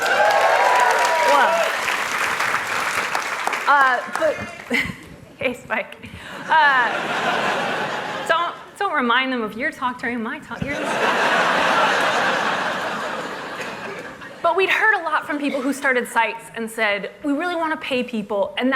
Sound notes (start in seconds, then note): 3.9 applause; 5.4 cheers; 13.4 laughter